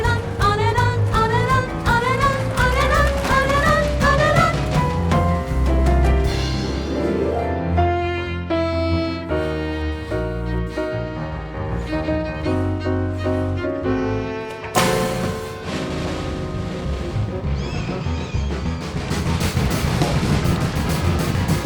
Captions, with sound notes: On and on! On and on! On and on! On and on! On and on! On and on! [sad fiddle] [wood rattling]